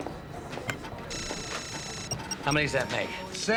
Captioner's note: computer beeping and trilling